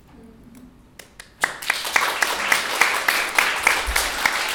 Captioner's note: audience applauds